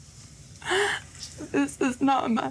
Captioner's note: sobs